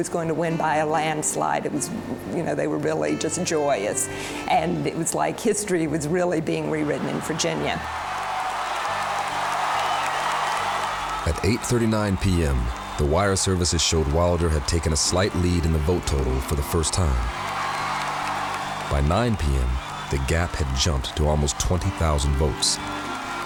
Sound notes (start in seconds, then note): 8.4 audience applauding; 8.4 audience cheering